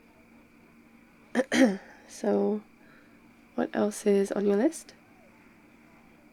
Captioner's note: ahem